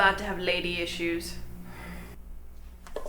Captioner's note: sigh